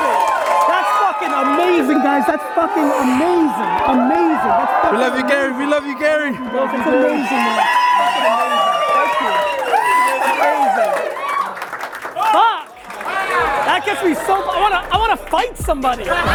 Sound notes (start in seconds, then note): 9.8 audience cheers; 15.7 audience laughs